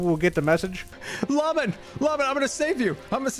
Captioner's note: gasps